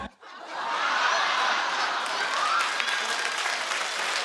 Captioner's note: crowd laughs